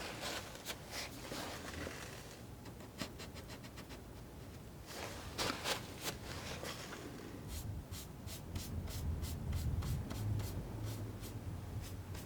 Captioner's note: scratching